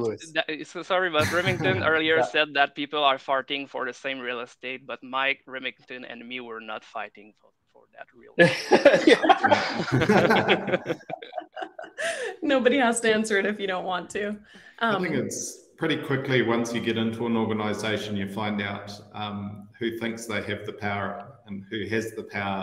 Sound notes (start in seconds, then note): 10.3 laughter